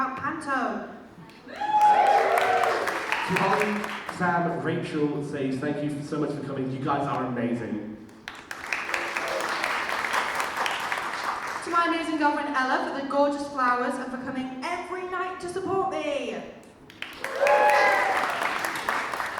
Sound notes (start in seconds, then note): 1.4 audience cheers; 8.0 audience claps; 16.9 audience cheers and claps